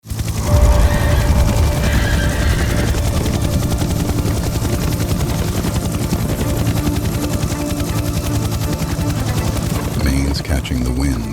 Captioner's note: wind gusting across open grassland